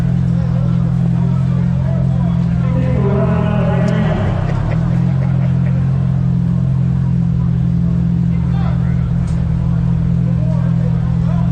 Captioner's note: crowd chattering